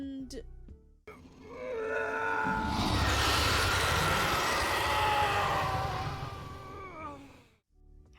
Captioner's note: scream/roar combo